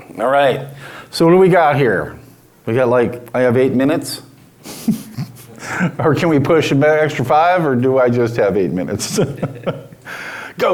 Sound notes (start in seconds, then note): 4.6 chuckles; 8.8 laughs